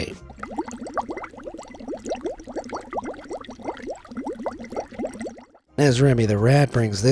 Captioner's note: soup gurgles